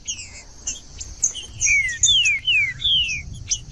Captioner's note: trinca ferro cantando